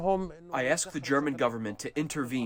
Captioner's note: through translator